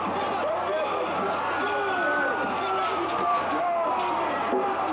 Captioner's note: ambulance sirens